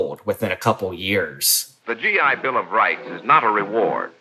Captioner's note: soundbite of archived recording